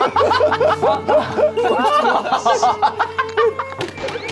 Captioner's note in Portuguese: Dançarina chorando